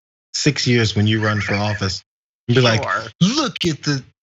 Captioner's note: laugh